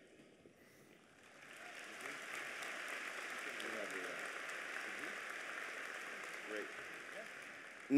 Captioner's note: applause